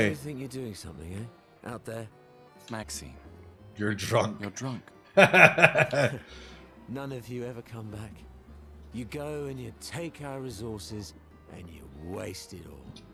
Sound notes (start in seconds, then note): 5.2 laughs